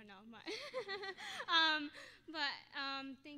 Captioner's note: laughing